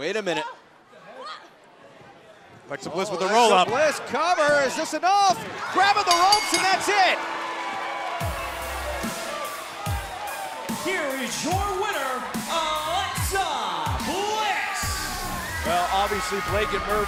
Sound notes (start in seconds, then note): 6.0 bell ringing; 8.2 crowd cheering